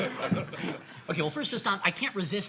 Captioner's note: laughing